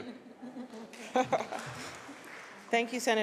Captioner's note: applause